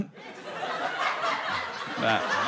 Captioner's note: laughter